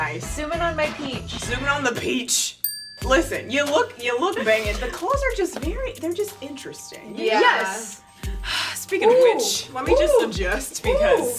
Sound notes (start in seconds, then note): 2.6 ding